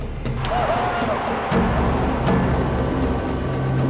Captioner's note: engines running